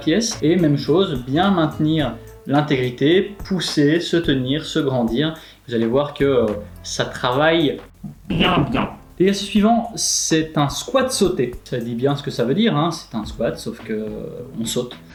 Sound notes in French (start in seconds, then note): 7.5 voix démoniaque